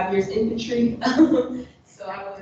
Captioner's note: laughs